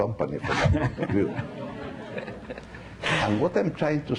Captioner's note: laughing